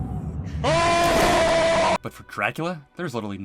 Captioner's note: painful Screaming